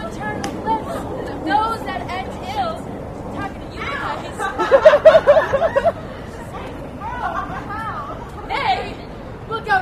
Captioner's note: laughter